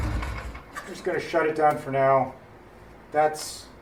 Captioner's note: engine stops